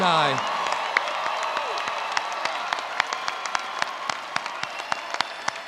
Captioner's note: attendees applauding